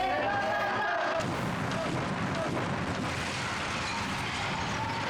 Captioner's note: officers shouting; bomb exploding